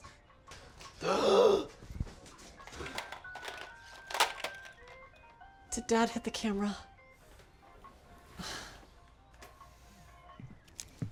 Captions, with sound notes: (BUCKY GASPS) Did Dad hit the camera? (BUCKY SIGHS)